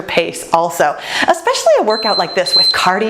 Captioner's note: timer beeps